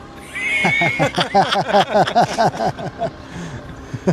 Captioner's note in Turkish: kahkaha